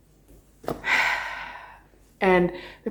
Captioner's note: exhales